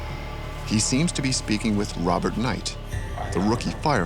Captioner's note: voiceover